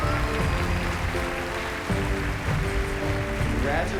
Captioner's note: cheers and applause